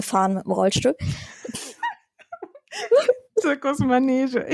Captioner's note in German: lacht